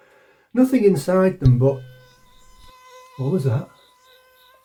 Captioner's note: buzzing